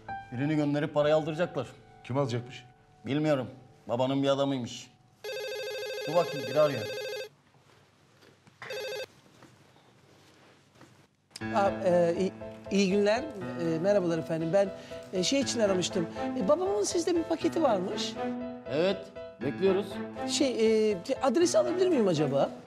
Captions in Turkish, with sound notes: Birini gönderip parayı aldıracaklar. -Kim alacak? -Bilmiyorum. Babanın bir adamıymış. (Telefon zili sesi) Dur bakayım, biri arıyor. Aa iyi günler. Merhabalar efendim, ben... ...şey için aramıştım. Babamın sizde bir paketi varmış. Evet, bekliyoruz. Şey adresi alabilir miyim acaba?